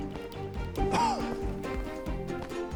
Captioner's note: coughs